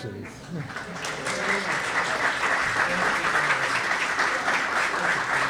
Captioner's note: audience applauds